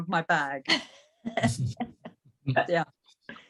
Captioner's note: laughing